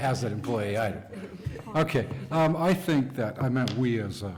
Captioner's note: laughter